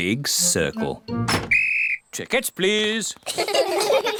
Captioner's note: blows whistle; all laugh